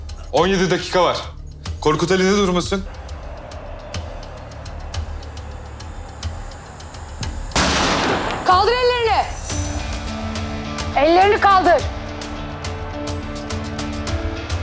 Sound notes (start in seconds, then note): 2.9 chants; 7.5 gunfire; 12.5 tension music continues